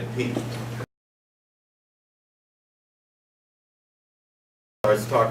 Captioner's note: silence